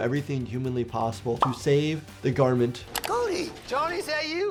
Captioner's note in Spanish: burbuja estallando